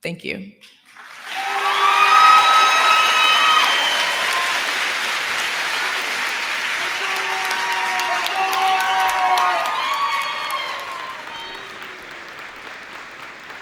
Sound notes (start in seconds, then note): 5.6 cheers and applause